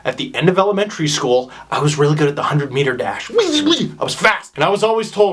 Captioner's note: whizzing noises